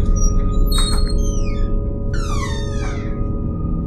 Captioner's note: door creaks loudly